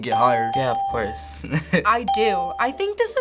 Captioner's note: ding; chuckles